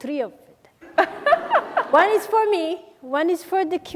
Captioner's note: laughing